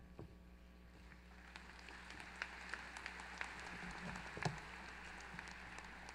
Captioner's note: applause